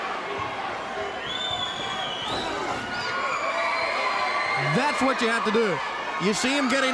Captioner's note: crowd cheering